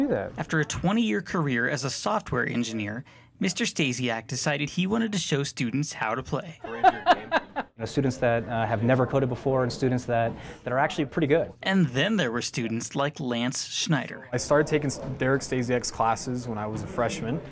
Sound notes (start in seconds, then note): 6.6 laughing